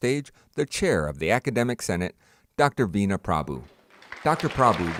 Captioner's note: applause